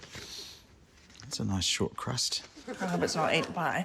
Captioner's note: sniffs